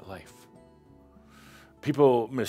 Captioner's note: music stops